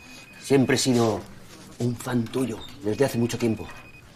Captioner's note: whispering